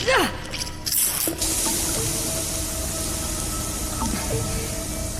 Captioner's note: liquid hissing